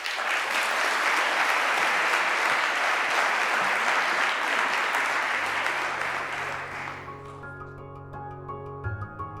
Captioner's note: applause